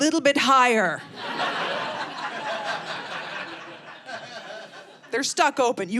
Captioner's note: audience laughing